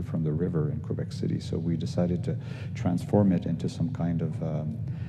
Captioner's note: none